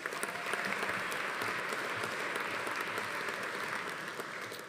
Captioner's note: attendee cheering; audience applauding